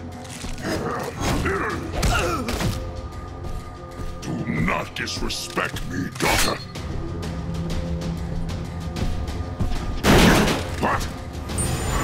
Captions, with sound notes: [grunting] Do not disrespect me, daughter! [thudding] What?